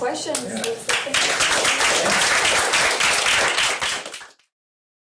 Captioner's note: applause